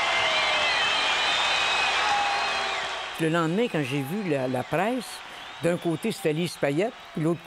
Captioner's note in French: acclamations